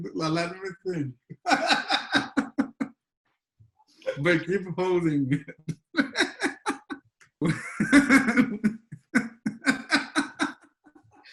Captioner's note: laughter